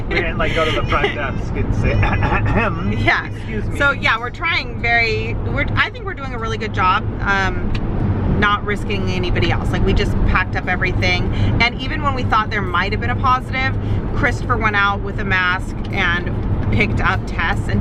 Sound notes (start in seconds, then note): 0.2 throat clears